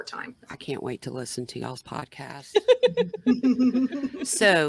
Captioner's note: laughing